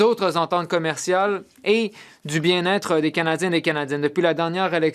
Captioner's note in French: voix de l'interprète